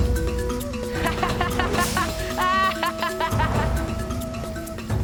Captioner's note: laughing